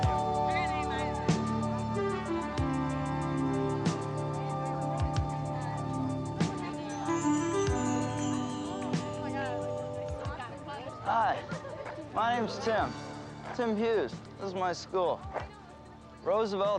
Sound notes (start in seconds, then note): 2.1 crowd chattering